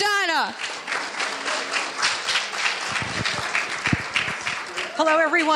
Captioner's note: audience applauding